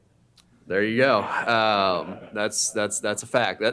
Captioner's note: laughter